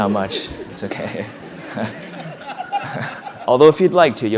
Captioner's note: laugh